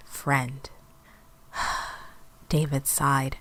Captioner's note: sigh